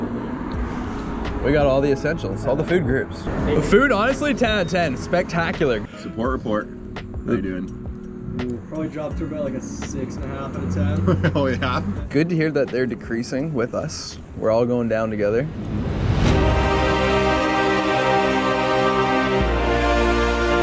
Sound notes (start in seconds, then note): 14.9 air whooshing loudly; 15.5 dramatic orchestra music